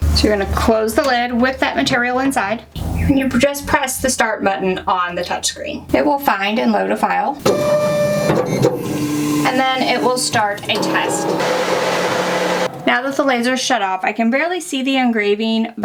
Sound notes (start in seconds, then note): 7.4 machine whirs; 11.4 whirring continues